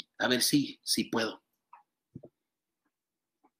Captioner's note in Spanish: habla en inglés